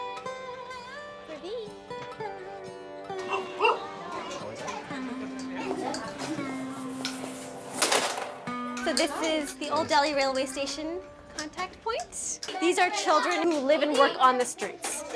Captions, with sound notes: [barks] [indistinct chatter] - So this is the Old Delhi railway station contact point. These are children who live and work on the streets.